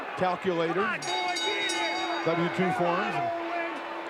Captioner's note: bell rigning